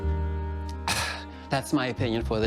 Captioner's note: slurps